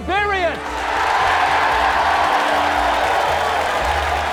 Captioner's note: cheering